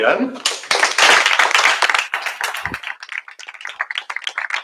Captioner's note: applause